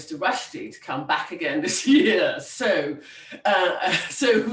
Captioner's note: laughs